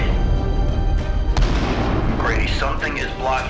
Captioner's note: explosion booming